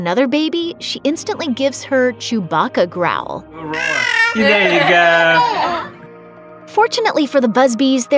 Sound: Chewbacca growl

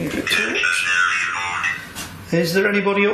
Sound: device speaks

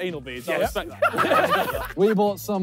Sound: all laughing

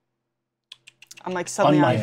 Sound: tsk tsk sounds

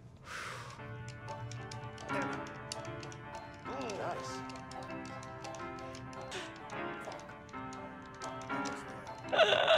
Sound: buttons tapping

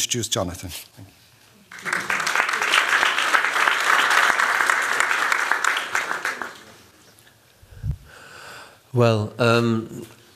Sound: applause

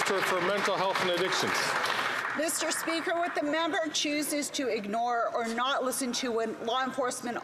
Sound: some Applause

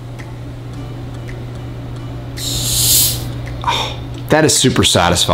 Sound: fizz hissing

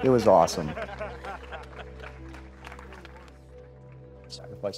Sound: laughing

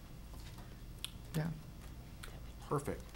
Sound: whispering

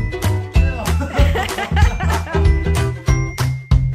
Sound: laughing

